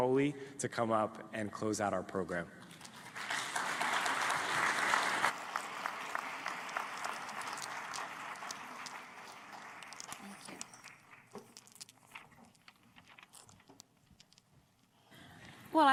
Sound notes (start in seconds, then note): 5.1 applause